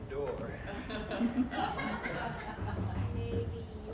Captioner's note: chuckling from Audience